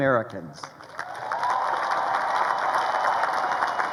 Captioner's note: crowd applauding